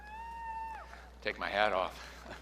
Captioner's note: audience cheering